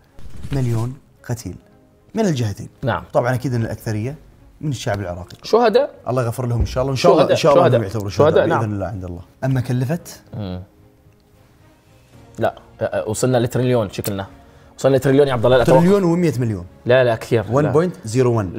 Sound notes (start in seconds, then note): none